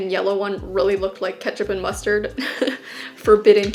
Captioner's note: laughs